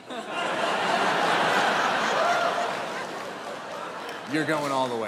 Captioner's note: audience laughs